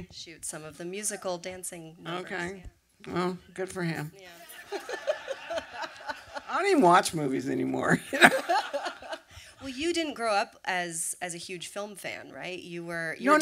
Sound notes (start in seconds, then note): 4.7 laughter